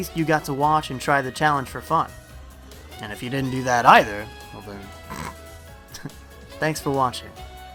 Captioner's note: laughs